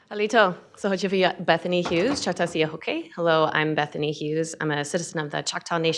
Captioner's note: speaking Chochtaw